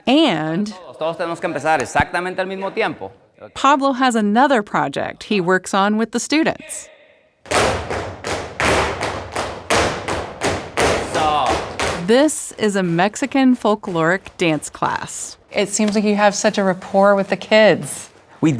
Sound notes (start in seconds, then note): 1.1 talking in foreign language; 7.5 crowd stomping